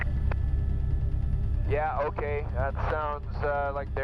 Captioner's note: voiceover